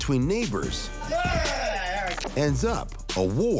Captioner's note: neighbor yells